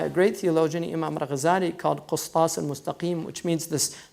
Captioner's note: foreign language